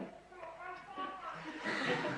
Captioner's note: laugh